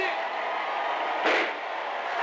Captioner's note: gunshot